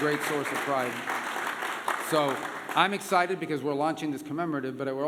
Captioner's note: applause